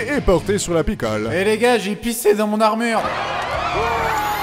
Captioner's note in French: acclamations